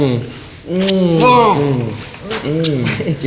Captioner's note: David groans with disproval